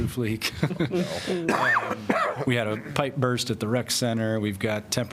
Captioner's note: laughter